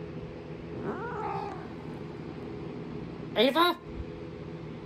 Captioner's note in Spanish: Caprice se queja